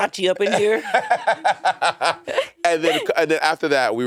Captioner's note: Monét and Courtney laughing